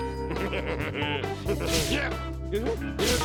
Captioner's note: chuckles wickedly